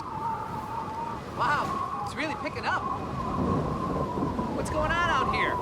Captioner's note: strong wind blows